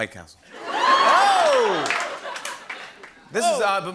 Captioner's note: laughter